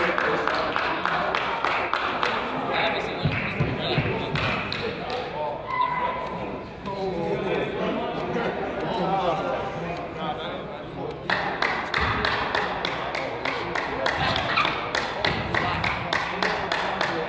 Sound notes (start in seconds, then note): 7.0 crowd chatters; 7.0 person applauds